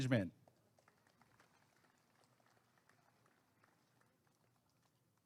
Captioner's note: applause and cheering